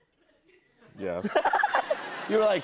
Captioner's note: laughter